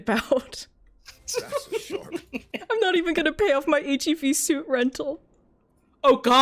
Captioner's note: laughing